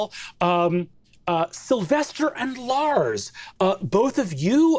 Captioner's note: none